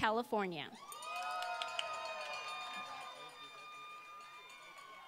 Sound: applause

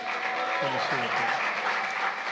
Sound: applause

